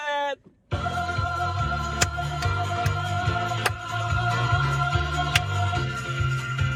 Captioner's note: upbeat music; clapping